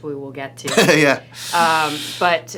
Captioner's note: laughs